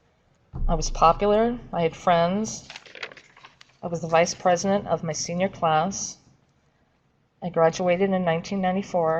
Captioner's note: shuffling papers